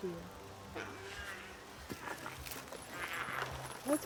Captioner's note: Giree grumbles